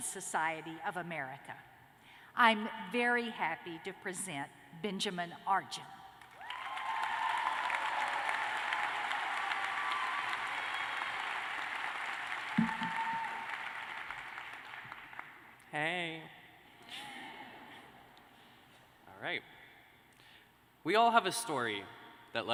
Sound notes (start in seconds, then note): 15.8 cheers and applause